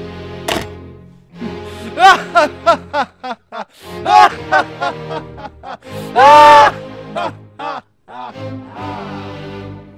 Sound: maniacal laughter

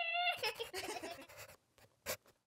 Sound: laughter

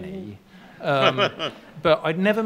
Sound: laughing

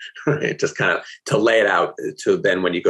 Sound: chuckling

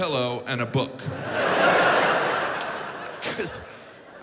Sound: audience laughs

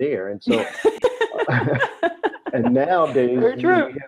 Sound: laughter

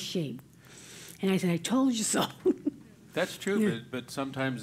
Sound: laugh

